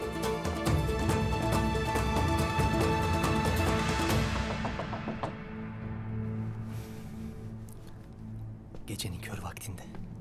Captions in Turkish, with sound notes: (Kapı sesi) (Müzik - Gerilim) Gecenin kör vaktinde.